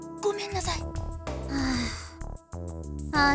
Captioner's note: weary sigh